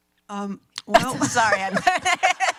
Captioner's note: laughs